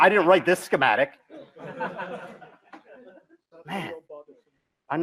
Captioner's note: laughter